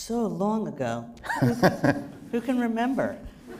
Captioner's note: laugh; laughter